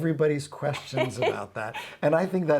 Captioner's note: laughs